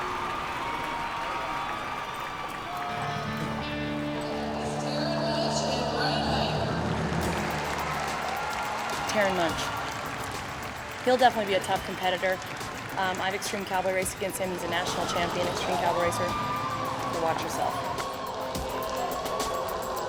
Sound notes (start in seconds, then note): 0.2 cheers and applause; 7.3 cheers and applause